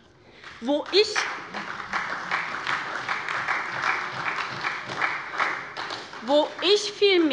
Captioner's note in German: Beifall bei der SPD